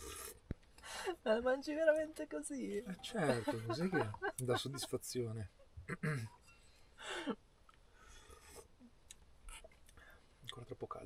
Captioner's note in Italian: schiarire la voce